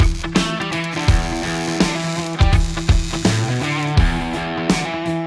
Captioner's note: hard Rock Music; welding Sparks